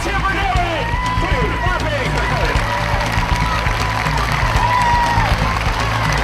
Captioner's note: cheering drowns out